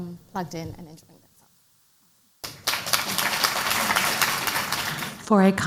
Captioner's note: applause